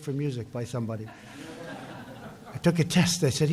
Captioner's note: laughter